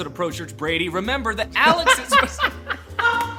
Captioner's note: laughter